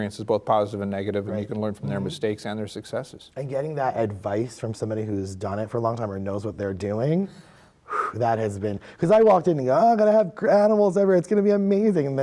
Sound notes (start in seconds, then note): 7.8 blows air